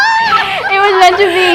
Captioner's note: laughs